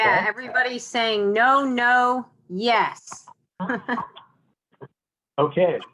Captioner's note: chuckles